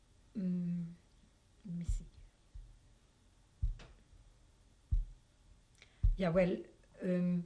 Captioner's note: pauses for 3 seconds